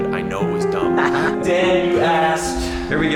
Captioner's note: laughs